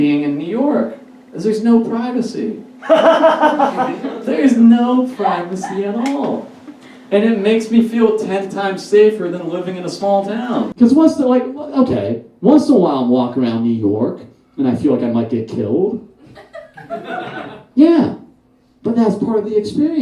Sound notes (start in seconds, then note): 16.2 audience Laughs